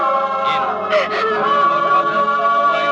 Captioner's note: crying